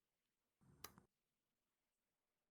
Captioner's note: click